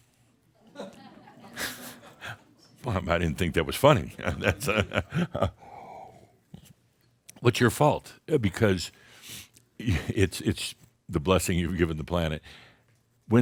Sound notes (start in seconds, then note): 0.7 some chuckles; 4.2 Adamus chuckles